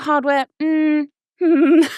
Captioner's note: humming